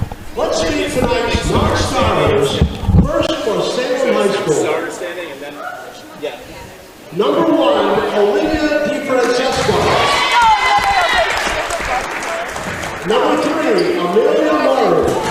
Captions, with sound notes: Let’s meet tonight’s non-starters First from Salem High School. Number 1, Olivia DiFrancesco [cheering] Number 3, Amelia Maru